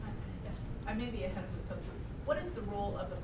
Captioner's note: voiceover